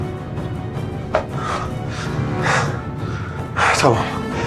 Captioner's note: thrilling music; breathing heavily